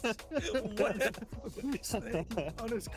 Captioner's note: laughs